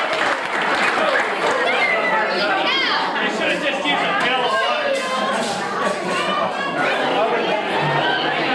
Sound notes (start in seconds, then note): 5.4 laughter